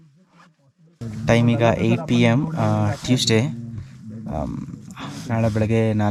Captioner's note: in Kannada